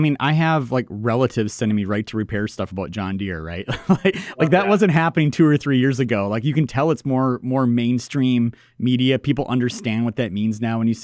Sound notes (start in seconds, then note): 3.7 laughs